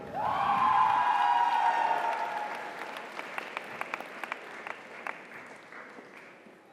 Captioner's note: audience cheers; audience applauds